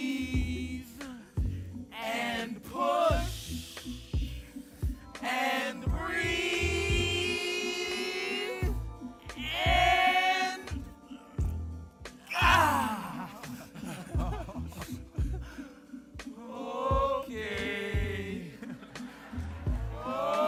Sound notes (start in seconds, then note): 12.4 group laughing; 18.3 audience laughing